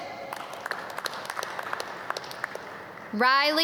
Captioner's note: audience clap